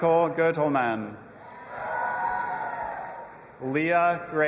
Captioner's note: audience applauding and cheering